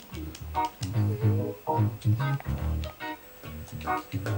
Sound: console buttons click; laidback reggae music

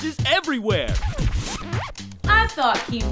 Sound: record scratch

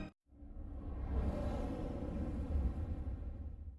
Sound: whooshing sounds

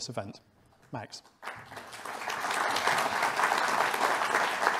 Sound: audience applauding

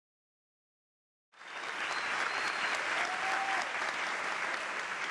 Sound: applause

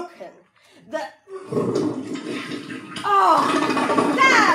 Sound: toilet flushing

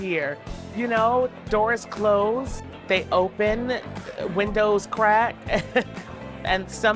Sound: chuckles

